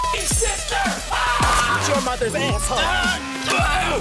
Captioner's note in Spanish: gritos